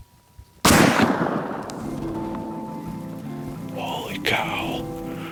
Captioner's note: gun fires